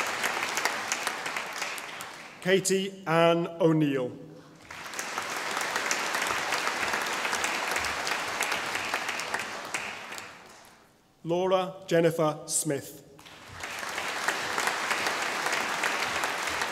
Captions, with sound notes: Katie Anne O'Neill (audience applauding) Laura Jennifer Smith (audience applauding)